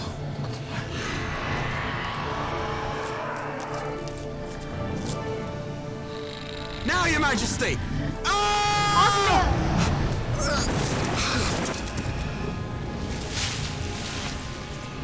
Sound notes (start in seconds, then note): 8.1 yells